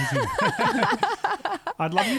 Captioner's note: laughing together